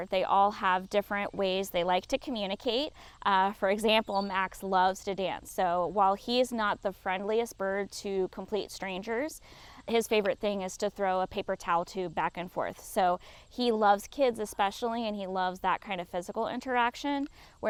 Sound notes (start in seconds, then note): none